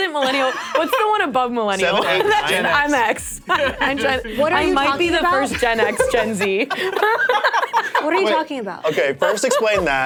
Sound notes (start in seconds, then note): 7.0 laughs